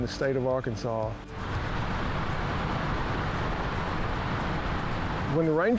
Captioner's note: sound of waterfall